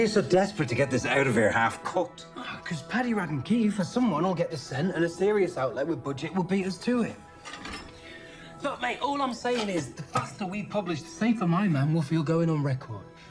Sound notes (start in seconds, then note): none